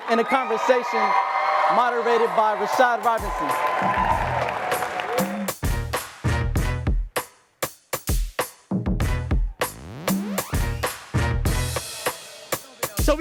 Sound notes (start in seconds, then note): 4.3 audience applauds and cheers; 4.3 upbeat hip hop music